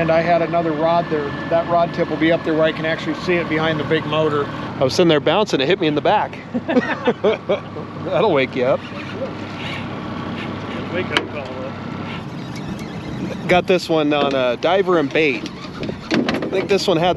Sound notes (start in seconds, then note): 8.1 laughing; 12.0 reel cranking